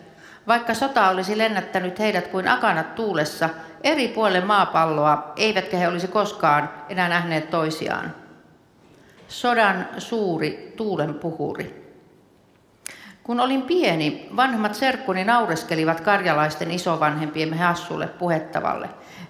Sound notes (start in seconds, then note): none